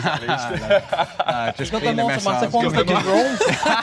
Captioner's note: friends laughing